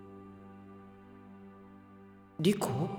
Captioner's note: silence